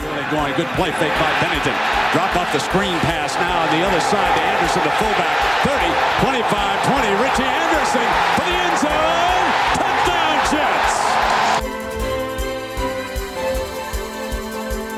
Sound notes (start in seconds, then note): 11.0 stadium cheering